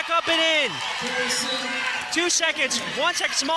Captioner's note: cheering